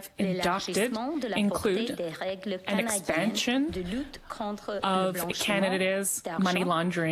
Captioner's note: speaking French